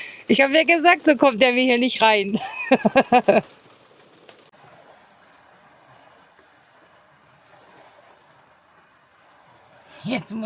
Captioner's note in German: gelächter